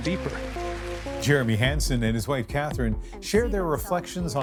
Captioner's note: applause